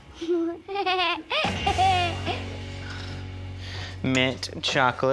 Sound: giggling

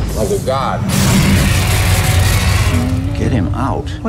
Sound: screeching noises

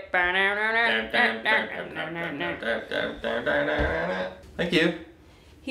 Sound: humming

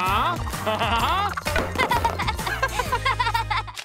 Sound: laughing

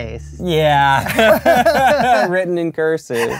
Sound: laughter

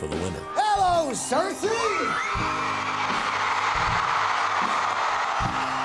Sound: audience cheers

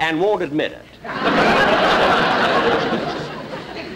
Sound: audience Laughing

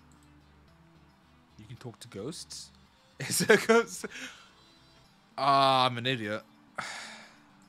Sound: laughs

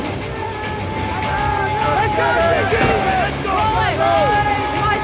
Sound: crowd cheering

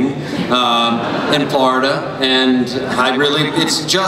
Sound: laughter

